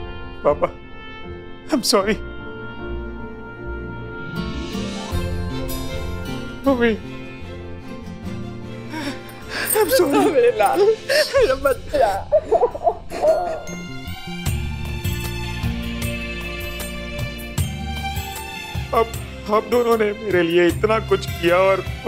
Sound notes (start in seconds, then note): 12.6 cries; 13.9 cheerful music playing